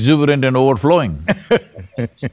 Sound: laughs

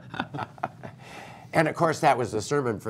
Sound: laughter

